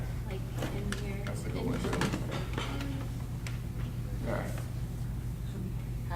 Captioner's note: rustling drowns out speakers